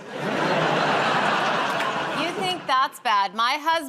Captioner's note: laughter